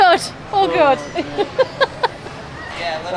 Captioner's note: groaning in background